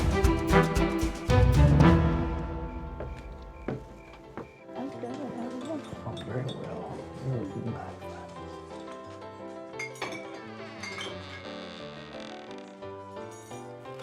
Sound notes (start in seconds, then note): 4.7 quiet chatting; 8.2 saloon music